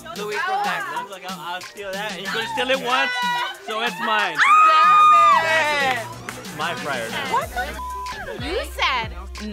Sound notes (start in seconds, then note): 4.3 a lady screaming; 7.7 beep